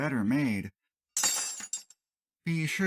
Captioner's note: clank